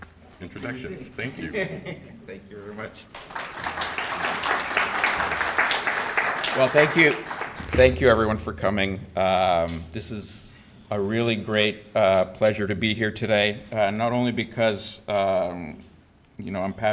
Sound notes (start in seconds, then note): 3.0 audience applauding